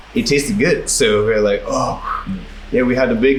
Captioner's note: phew